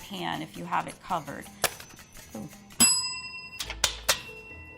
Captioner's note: bell dinging